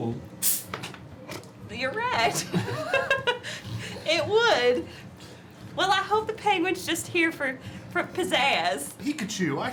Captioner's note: laughs